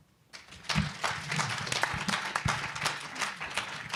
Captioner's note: applause